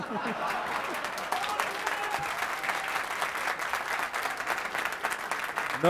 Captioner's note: laughter; applause